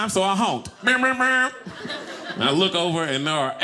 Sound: honking noises

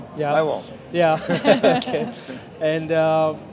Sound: laughter

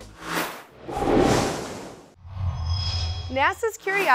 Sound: sound Effects

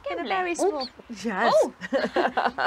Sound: owl chirps

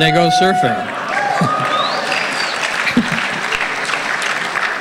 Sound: audience cheering

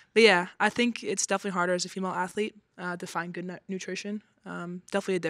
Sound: none

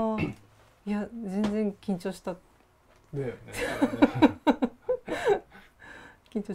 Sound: laugh

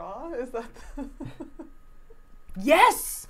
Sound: laughing

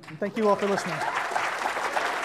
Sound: applause

